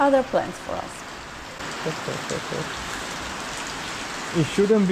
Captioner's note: heavy rain